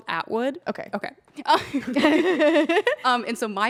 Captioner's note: everyone laughs